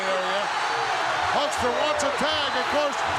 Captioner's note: audience cheering